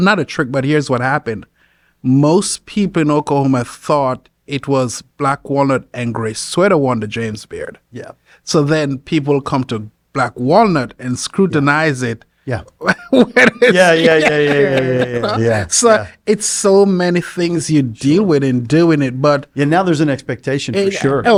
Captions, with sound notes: Not a trick, but here's what happened. Most people in Oklahoma thought it was Black Walnut and Grey Sweater won the James Beard. So then people come to Black Walnut and scrutinize it when it's... (laughs) So it's so many things you deal with in doing it, but- - Yeah, now there's an expectation for sure.